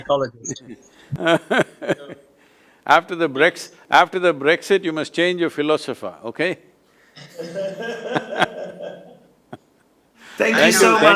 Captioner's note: laughter